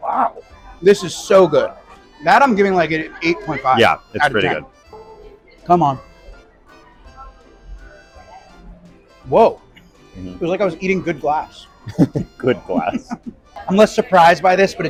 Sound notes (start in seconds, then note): 6.9 french music; 11.6 laughing